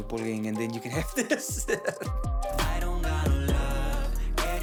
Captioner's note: laughs